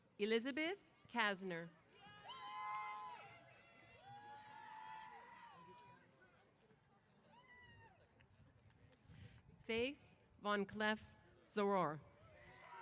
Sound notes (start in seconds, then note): 1.9 cheers